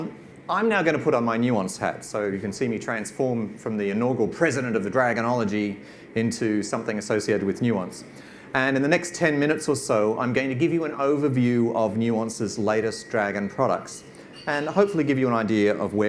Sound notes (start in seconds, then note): none